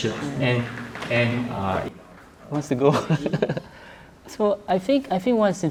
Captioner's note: laughs